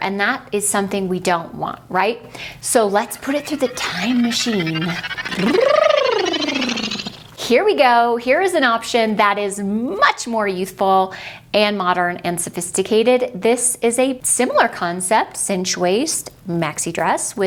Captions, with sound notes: and that is something we don't want, right? So let's put it through the time machine. (dramatic sound effect) Here we go. Here's an option that is much more youthful, and modern, and sophisticated. This is a similar concept, cinched waist, maxi dress